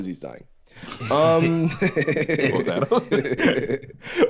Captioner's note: laughs